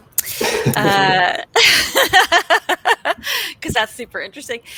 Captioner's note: both laughing